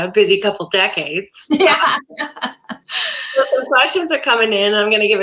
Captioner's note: laughter